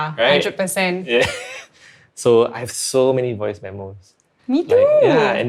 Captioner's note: laughs